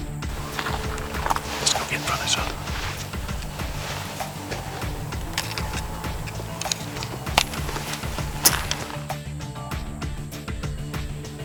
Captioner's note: whispering